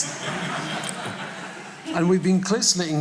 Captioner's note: audience laughing